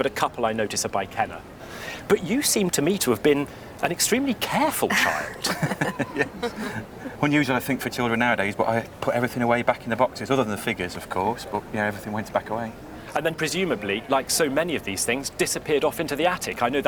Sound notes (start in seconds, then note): 4.8 laughs